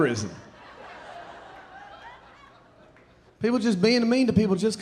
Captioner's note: audience laughing